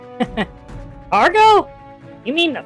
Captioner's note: laughs